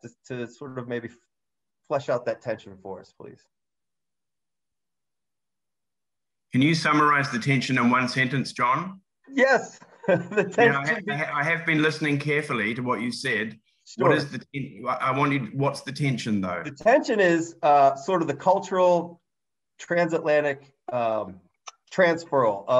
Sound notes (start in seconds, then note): 9.9 laughs